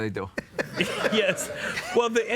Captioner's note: laughter